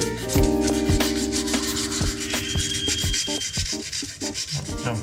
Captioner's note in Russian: голоса птиц